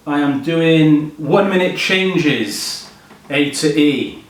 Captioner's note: none